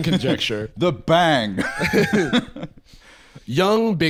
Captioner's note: laughs